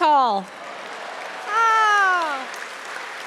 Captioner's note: audience clapping